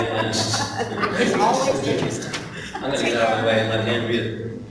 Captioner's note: laughing